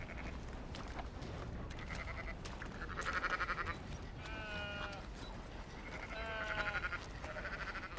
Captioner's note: sheeps and goats make noises in the background